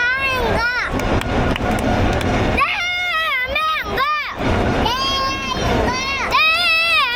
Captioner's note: cheering from the brothers born in '20 and '23 who flew in from Seoul ㅠㅠ